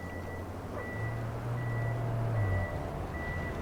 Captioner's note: utility truck beeps